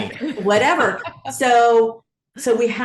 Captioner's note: laughs